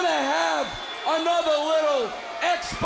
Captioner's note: crowd cheering